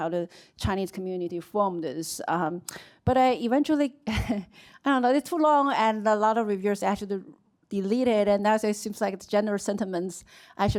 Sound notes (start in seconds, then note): 3.9 chuckles